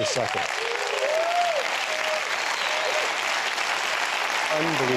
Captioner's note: applause